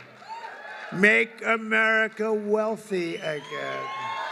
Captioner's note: applause